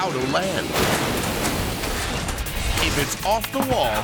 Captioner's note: helicopter crashes